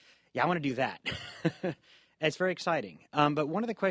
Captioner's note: laughs